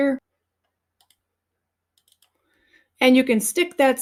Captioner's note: mouse clicking